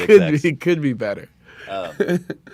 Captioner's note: laughs